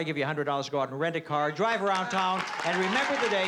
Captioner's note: applause